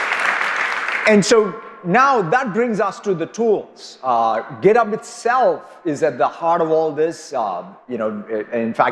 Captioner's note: applause